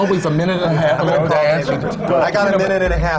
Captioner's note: laughter